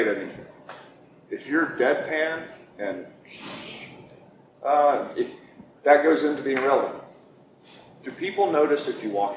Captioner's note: makes air noise